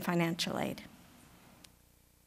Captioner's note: pause